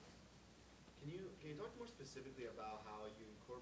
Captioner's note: voiceover